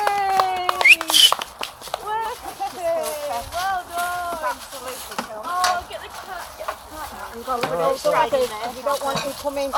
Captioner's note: cheering and whistling